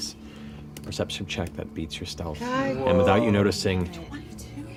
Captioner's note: none